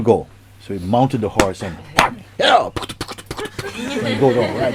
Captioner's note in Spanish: Risas